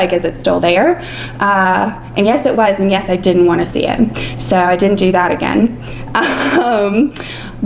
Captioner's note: laughs